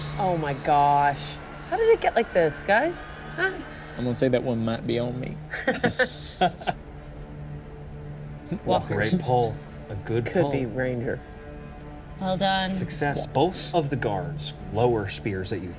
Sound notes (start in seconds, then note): 5.5 teammates laughing